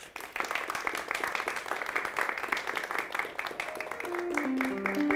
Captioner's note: applause